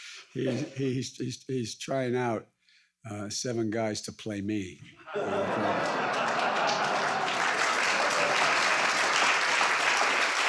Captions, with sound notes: He's trying out seven guys to play me. (audience laughs and applauds)